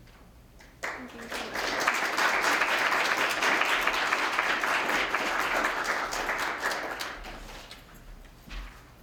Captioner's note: applause